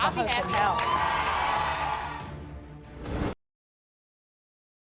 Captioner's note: audience cheers